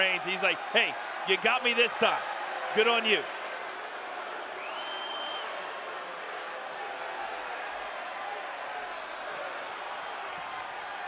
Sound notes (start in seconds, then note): 5.5 crowd chanting